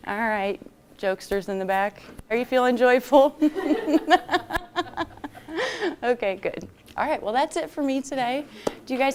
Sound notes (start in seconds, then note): 3.4 laughter